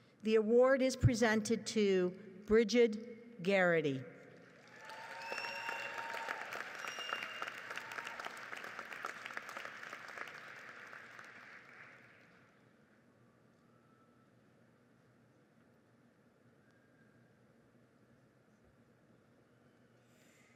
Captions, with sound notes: The award is presented to Brigid Gerrity. (audience applauds)